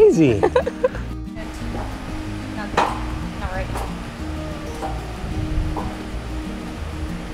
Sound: coach laughs; trampoline clacking

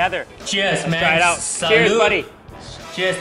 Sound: laughs

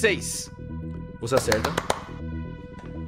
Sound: clap

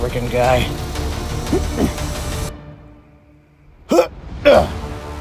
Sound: struggle Sounds

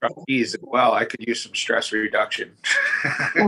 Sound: laughs

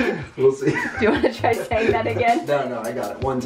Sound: laughs

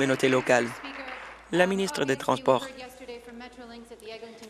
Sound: applause

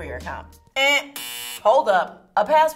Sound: buzzer buzzes

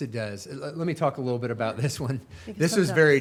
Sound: chuckling

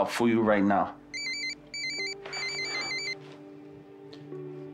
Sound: phone rings

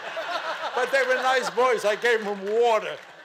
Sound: audience laughing and clapping

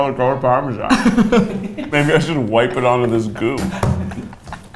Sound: laughs; laugs

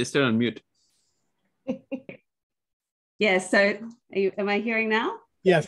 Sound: laughter

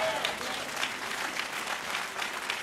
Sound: applause

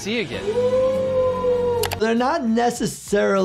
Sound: people cheering

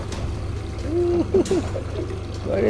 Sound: giggles

